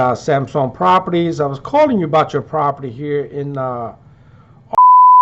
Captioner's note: beep